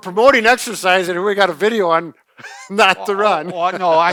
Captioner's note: laughs